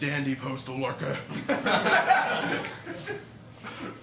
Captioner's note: laughter